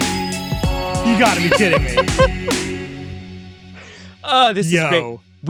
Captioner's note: laughing